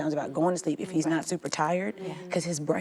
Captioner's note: agreeing mumbles